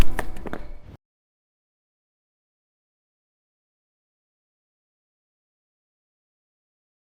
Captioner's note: stomp